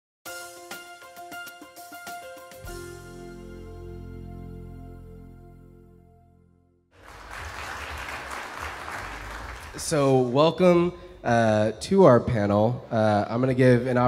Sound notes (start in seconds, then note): 0.2 upbeat music; 6.9 audience applauds